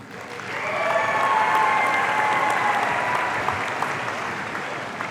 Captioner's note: audience cheering